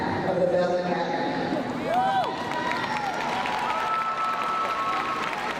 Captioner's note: crowd cheering